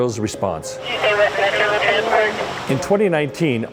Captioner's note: woman On Radio